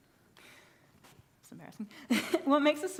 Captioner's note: laughs